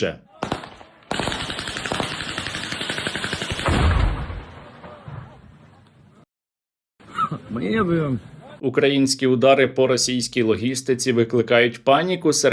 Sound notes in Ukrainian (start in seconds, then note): 3.6 вибух